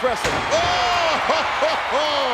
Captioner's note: laugh